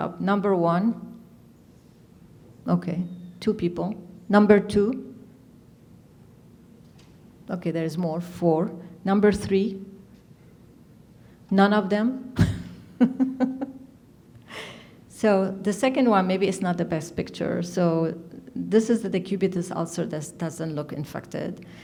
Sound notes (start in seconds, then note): 12.9 laughs